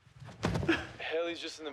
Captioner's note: Clair thumps